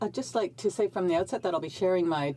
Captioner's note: speaking French